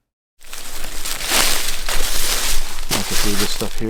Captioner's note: leaves rustling